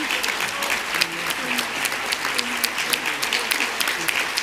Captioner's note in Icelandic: fagnaðarlæti